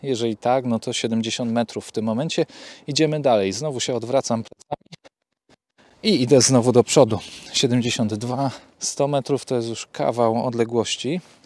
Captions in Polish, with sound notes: jeżeli tak to 70m w tym momencie idziemy dalej znowu odwracam się plecami i idę znowu do przodu ( dźwięk z wewnętrznego rekordera ) 72m 100m to już jest kawał odległości